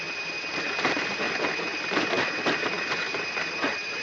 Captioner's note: sound of front landing gear